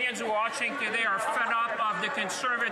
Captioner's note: speaking French